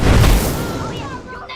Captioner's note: children shouting; child's voice